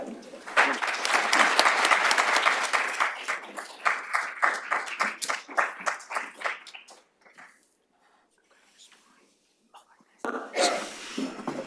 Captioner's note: applause